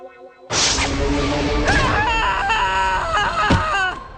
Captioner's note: screaming